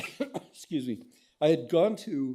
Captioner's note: coughs